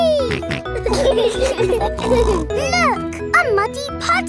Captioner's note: laughing